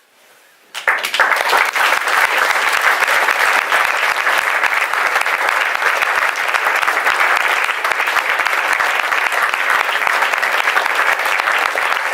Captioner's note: applause